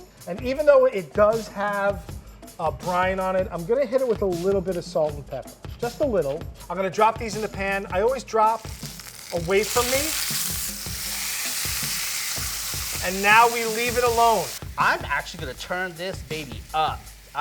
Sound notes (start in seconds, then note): 10.8 pan sizzling